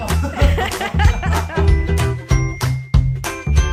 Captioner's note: laughing